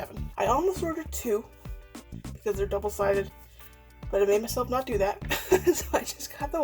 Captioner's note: laughs